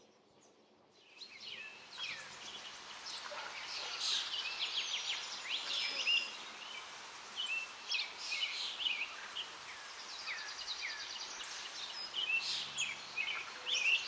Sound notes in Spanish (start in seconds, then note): 2.3 sonidos de río, trinos de pájaros